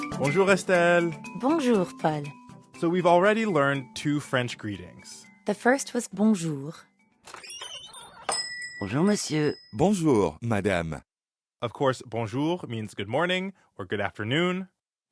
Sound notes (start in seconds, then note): 7.2 door swinging open